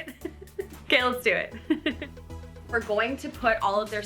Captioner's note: chuckles